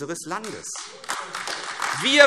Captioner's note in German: Beifall AfD